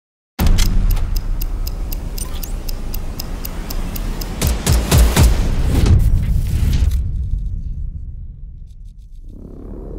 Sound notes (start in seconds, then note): 0.6 ticking; 4.9 drums beating